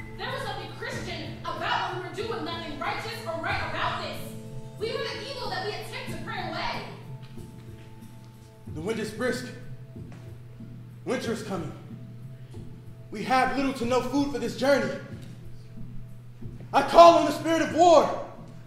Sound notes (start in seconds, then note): none